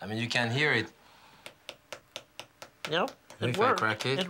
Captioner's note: spoon tapping